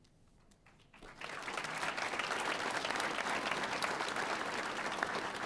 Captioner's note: audience applauding